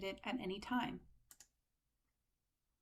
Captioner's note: click